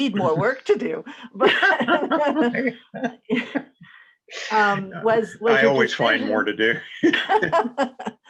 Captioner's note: chuckles